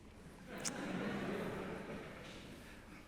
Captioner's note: laughter